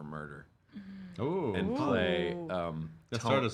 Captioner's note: murmuring